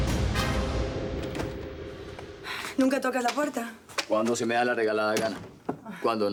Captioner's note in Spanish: Ruido al abrir la puerta